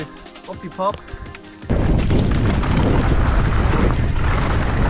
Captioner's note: wind whooshing